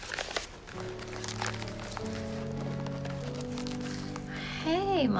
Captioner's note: paper rustling; light music